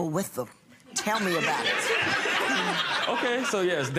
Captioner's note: laughing